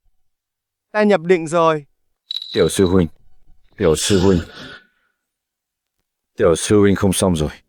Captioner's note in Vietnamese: khịt mũi